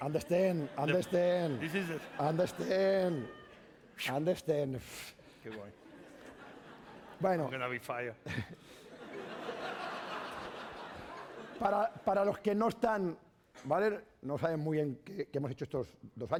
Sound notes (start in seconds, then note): 8.2 laughter; 12.5 speaking spanish